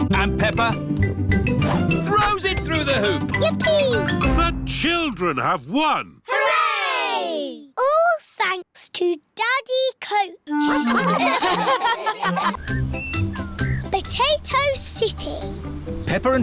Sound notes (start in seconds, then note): 10.6 all laugh